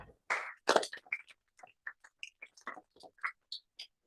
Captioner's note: applause